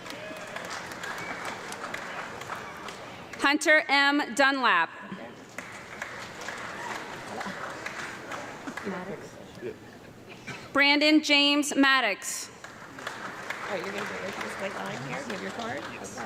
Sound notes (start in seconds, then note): 0.0 audience clapping; 5.5 audience clapping; 12.6 audience clapping